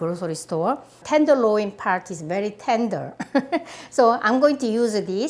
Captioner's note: laughs